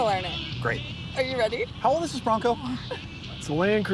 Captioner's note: laughs